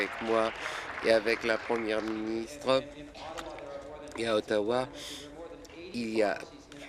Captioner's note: applause